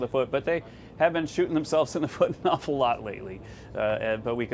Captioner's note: laughter